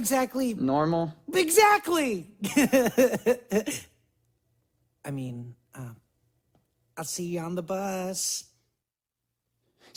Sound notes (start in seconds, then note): 2.4 laughs